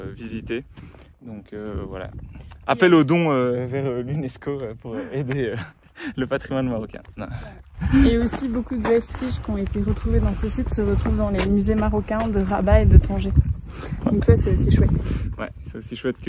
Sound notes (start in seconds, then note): 4.9 laughs